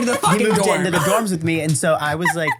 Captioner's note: laugh